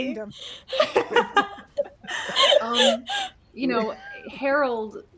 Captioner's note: everyone laughs